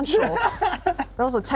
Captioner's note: laughs